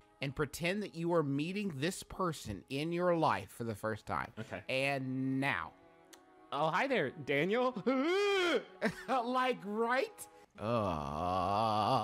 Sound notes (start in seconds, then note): 8.5 shouts in disgust; 10.6 groaning